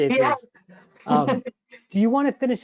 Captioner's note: chuckles